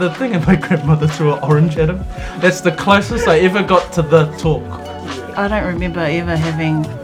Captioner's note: laughs